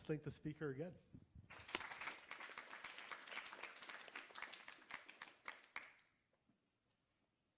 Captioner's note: applause